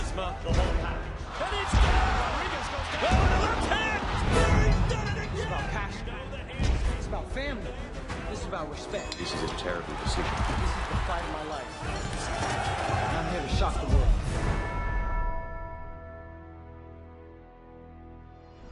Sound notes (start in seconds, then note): 12.4 crowd cheering